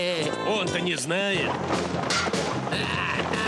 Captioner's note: yelling